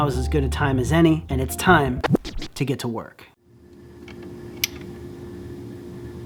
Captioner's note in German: record scratch